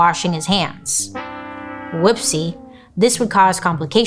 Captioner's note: horn blares